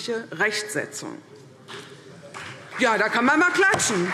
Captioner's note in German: Beifall CDU und vereinzelt BÜNDNIS 90/DIE GRÜNEN